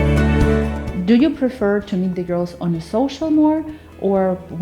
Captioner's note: Ukrainian